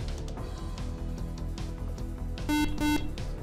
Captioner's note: beep